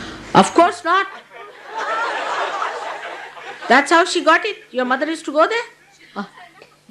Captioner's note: laughter